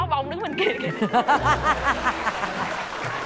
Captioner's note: laughs; claps